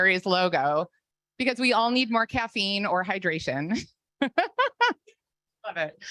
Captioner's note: laughs